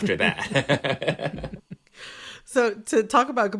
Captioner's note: laughter